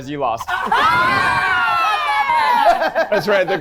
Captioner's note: people cheering